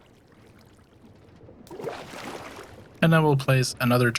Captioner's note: water splashing